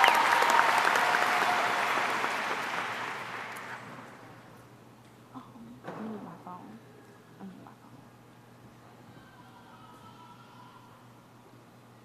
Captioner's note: applause